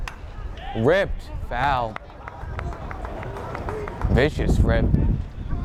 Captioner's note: bat cracks